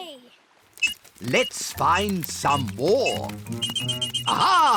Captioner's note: beeps slowly; beeps quickly